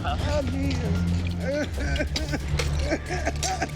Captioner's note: coughing